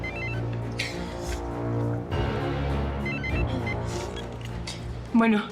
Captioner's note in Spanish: suena el celular